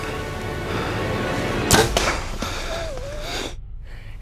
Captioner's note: swooshing